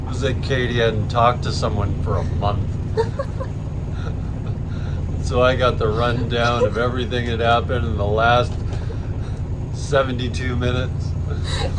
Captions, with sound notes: It was like Katie hadn't talk to someone for a month. (Laughing) So I got the run down of everything that's happened in the last 72 minutes.